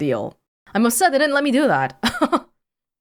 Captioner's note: chuckles